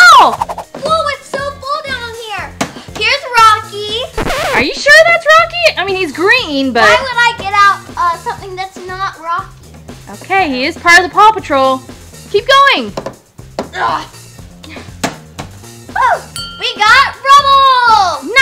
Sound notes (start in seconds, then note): 4.2 noise signal; 13.2 grunting; 16.3 bell rings